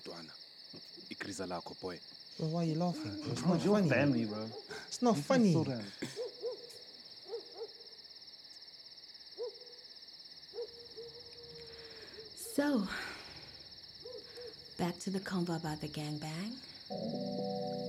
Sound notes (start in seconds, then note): 8.4 night ambience